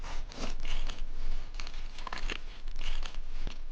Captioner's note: shovel digging